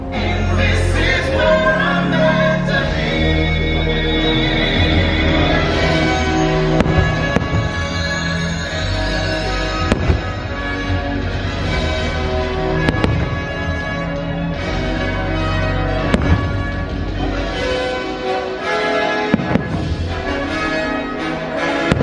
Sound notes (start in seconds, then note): 5.9 uplifting instrumental music; 9.8 fireworks exploding; 17.2 uplifting instrumental music continues